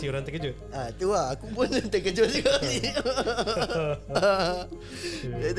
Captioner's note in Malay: ketawa; ketawa